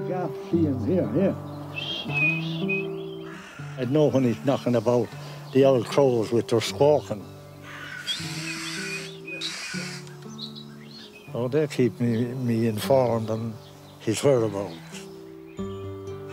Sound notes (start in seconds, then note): 1.7 whistles; 9.2 crows squawking